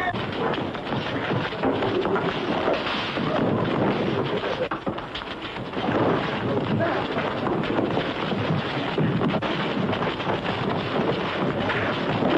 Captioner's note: shouting